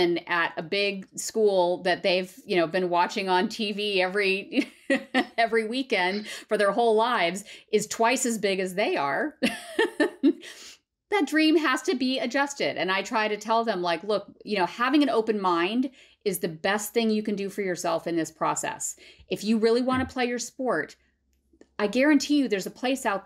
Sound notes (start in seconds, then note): 4.5 laughter; 9.4 laughter